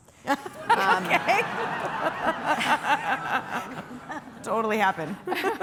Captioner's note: laughter